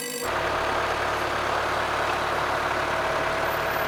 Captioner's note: tractor whirs